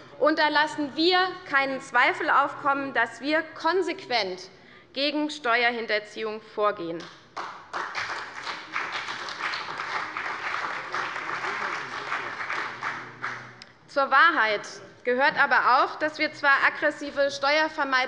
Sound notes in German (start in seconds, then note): 7.3 Beifall bei der CDU und bei Abgeordneten des BÜNDNISSES 90/DIE GRÜNEN